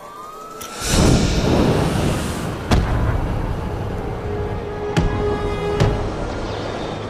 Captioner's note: sirens blaring; fire rustling